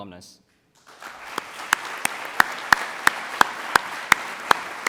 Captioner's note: audience applauds